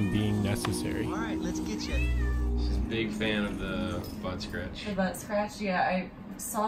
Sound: cat meows

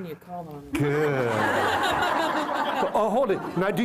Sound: laughter

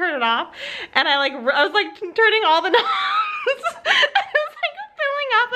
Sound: laughs

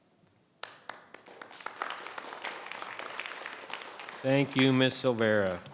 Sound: audience applause

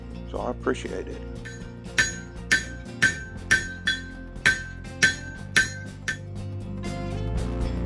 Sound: banging

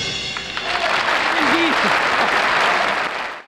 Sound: audience applauding

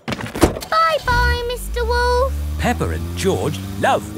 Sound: engine starts

